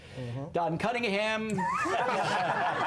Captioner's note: laughter